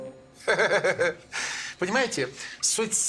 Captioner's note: laughs